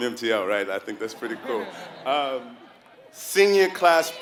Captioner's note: laugh